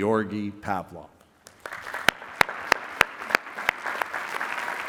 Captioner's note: applause